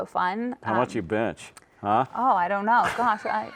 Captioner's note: chuckles